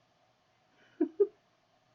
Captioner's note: laughs